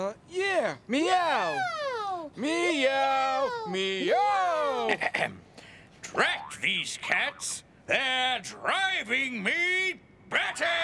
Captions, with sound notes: Uh, yeah, meow. ( both repeating "meow" ) ( clears throat ) Drat these cats! They're driving me batty!